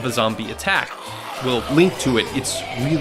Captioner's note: zombies growling